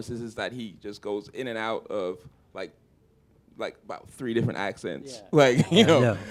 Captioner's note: chuckle